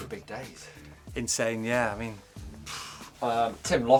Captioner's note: sighs